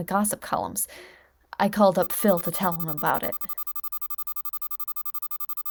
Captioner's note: beeping